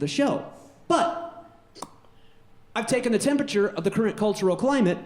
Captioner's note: pops